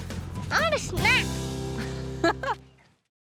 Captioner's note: giggles